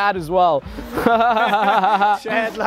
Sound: laughs

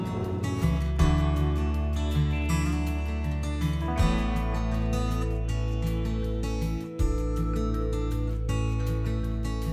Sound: splashing

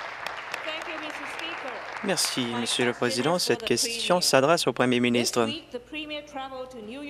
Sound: applause

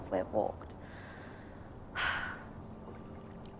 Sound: sighs

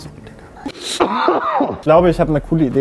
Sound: cough

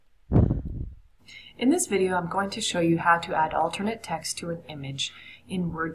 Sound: video audio playing

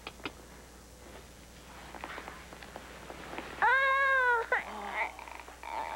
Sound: frankie cries

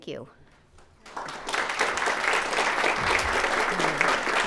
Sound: all clapping

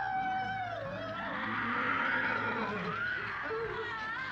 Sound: Sally continues screaming

